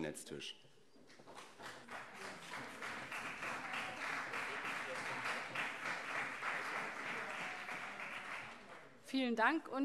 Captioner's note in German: Beifall CDU und SPD